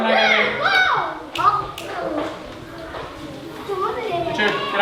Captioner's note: kids shouting; snaps fingers; foreign language